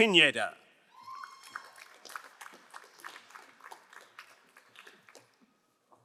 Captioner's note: crowd cheering and applauding